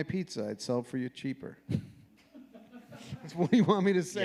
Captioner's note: audience laughing